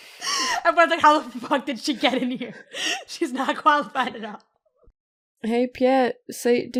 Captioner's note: laughs